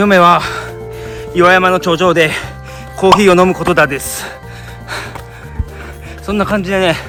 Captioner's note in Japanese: 荒い息